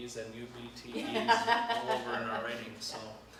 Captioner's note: laughs